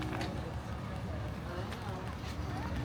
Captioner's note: people chattering